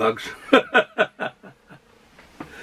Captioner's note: laughs arkwardly